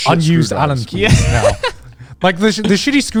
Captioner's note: laughs